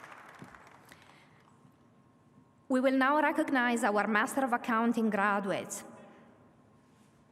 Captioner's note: applause